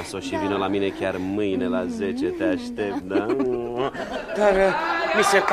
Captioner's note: laughter